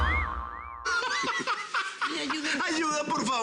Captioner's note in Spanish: Carcajadas